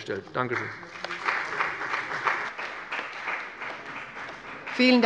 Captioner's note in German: Beifall bei dem BÜNDNIS 90/DIE GRÜNEN und der CDU